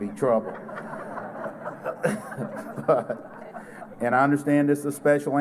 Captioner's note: laughter